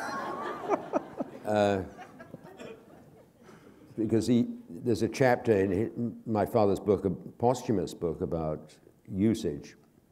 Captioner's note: laughter